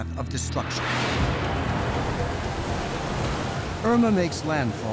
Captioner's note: winds roaring